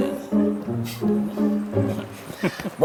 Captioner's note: Zalduondo laughs